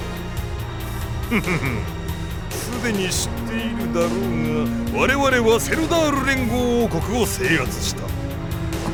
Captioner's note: chuckle